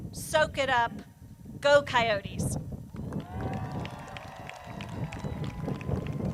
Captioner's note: crowd cheers